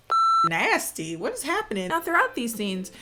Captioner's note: beep